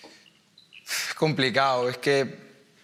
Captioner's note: snorts